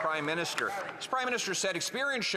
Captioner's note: some Applause